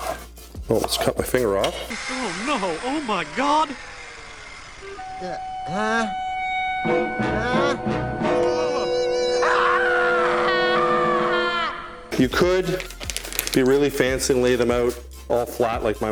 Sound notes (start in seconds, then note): 5.1 groans; 5.7 dramatic music; 8.3 groaning; 8.4 screaming